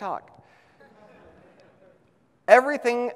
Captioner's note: audience laughs